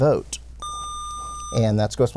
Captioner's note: buzzer